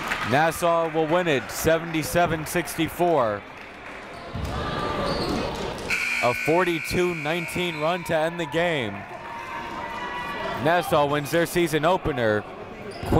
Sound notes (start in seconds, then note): 0.0 crowd applauds; 9.1 buzzer goes off